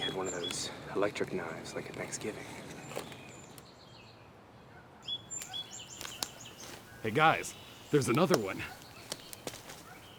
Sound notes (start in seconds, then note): none